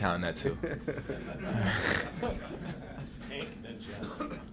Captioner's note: laughter